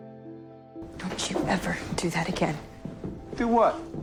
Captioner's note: voiceover